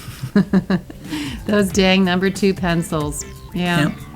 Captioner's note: laughs